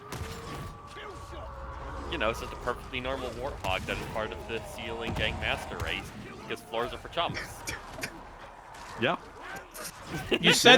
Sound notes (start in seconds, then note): 10.0 snickering; 10.1 laughter